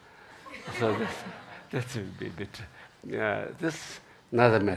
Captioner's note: laughing